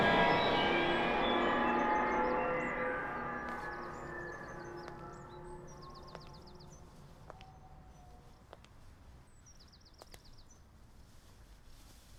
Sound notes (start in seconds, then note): 5.3 footsteps